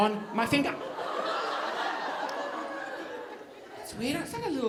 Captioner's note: audience laughing